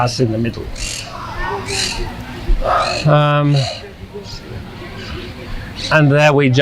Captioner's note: sighing